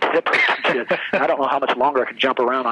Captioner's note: laughs